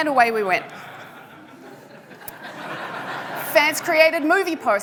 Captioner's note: audience laughing